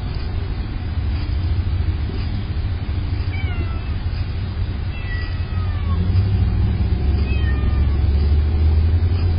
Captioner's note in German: Smoking-Kitty miaut